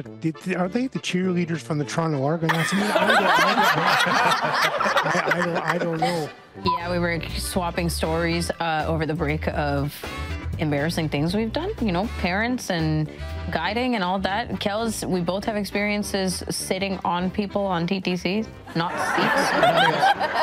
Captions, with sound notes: Are they the cheerleaders from the Toronto- (attendees laughing) I don't know... Yeah, we were swapping stories over the break of embarrassing things we've done, you know, parents and guiding and all that. Kels, we both have experiences sitting on people on TTCs, not seats. (attendees laughing)